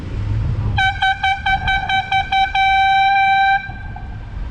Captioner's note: air horn